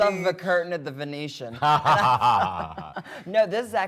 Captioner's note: both laughing